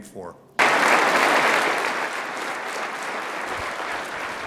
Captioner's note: applause